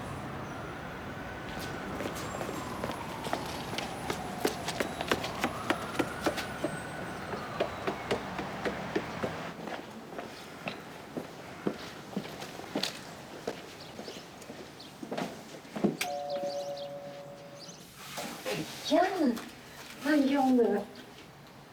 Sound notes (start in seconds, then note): 0.5 city and police sounds; 10.0 shoes on stone; 16.0 door bell